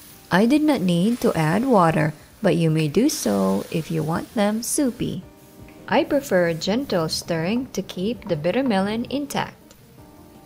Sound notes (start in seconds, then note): 6.9 sizzling, Music; 9.2 spoon thudding, sizzling